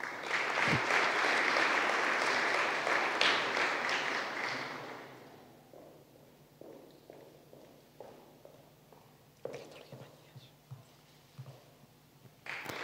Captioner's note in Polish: oklaski